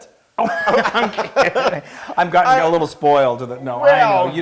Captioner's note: laugh